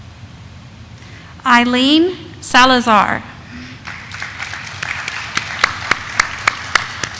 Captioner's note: audience applauding